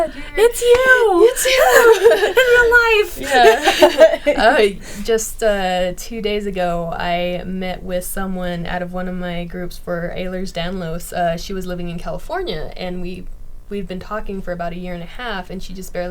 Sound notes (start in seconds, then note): 3.5 people laughing